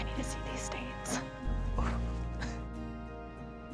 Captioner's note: Drew chuckles; dramatic instrumental rock music with expressive piano